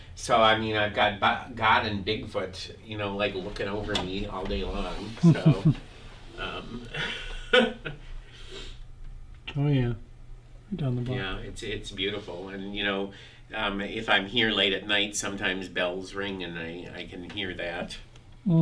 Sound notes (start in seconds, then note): 5.0 laughing; 5.2 interviewer laughing